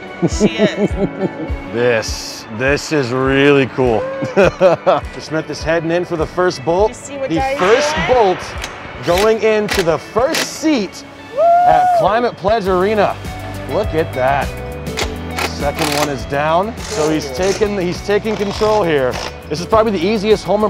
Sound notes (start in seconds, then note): 4.0 laughs